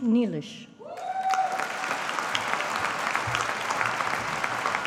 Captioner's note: audience applauding